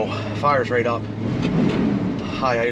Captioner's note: engines revving